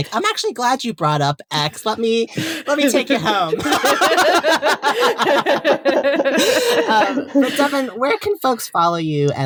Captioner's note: all laughing